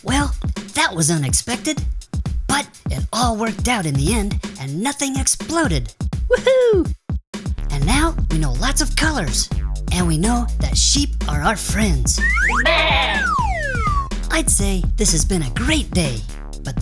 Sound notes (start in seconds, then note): 12.5 sheep baa